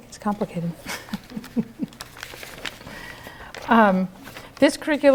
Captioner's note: rustling; laughter